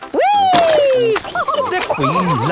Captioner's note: all laughing